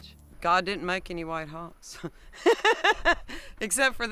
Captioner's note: laughs